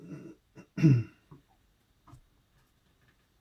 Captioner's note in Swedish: harklar sig